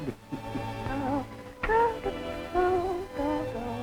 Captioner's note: humming